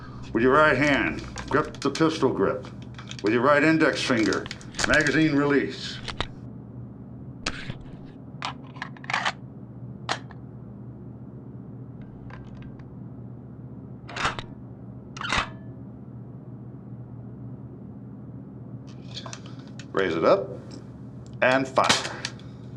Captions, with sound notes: With your right hand, grip the pistol grip. With your right index finger, magazine release. [click] [cocking gun] Raise it up. And fire. [click]